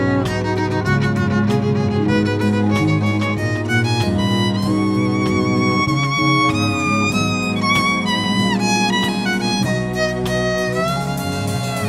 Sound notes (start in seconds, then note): none